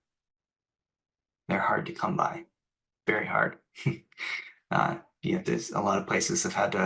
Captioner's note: laughs